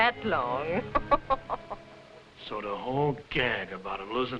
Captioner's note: laughing